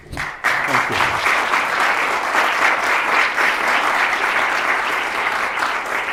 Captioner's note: applause